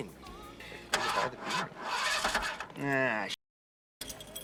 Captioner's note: car engine sputters